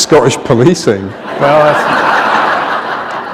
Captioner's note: laughter